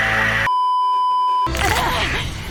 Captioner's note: beeeeeeeeeeeep; bones cracking